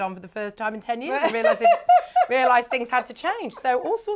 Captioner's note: laughs